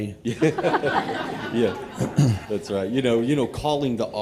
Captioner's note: laughter